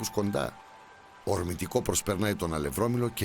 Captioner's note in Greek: ήχος του νερού μαζί με μουσική